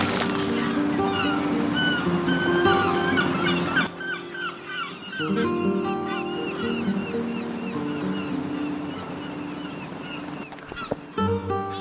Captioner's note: boat engine swells